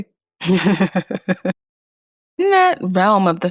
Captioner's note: laughs